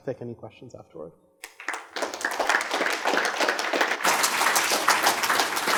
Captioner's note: applause